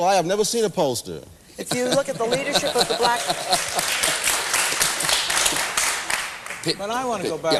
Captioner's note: laughter